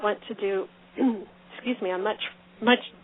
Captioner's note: clearing throat